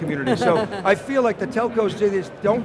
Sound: laughs

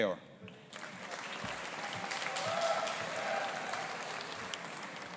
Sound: audience applauding

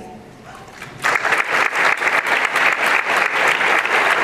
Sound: applause

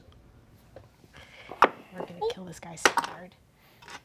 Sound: dice clatter

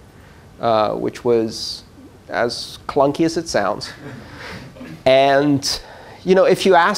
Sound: laughter

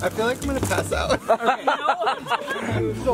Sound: all laughing

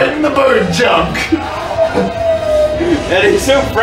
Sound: Sonic howls

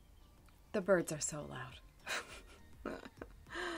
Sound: chuckles

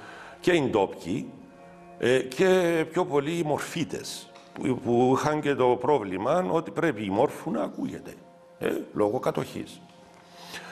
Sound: Turkish

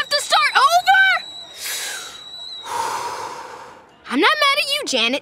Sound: deep breathing

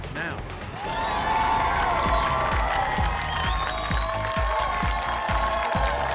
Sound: crowd cheering and clapping

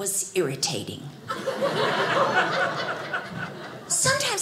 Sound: audience laughing

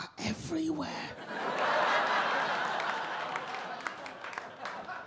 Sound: audience laugh

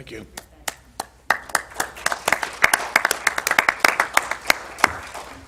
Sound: applause

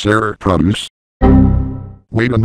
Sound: Windows XP Critical Stop

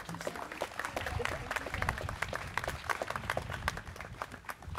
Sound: students clapping

